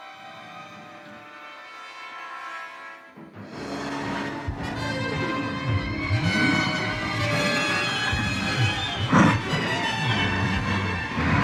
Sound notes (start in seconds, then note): 3.3 dramatic music; 3.9 Donald growling